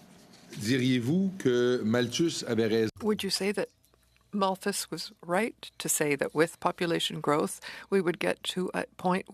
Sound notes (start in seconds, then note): 4.9 speaking French